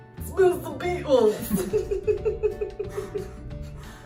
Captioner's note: laughter